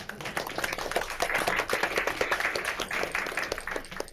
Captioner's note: all applaud